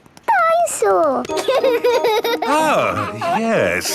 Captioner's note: giggles